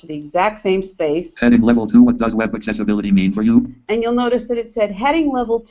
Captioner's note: JAWS speaking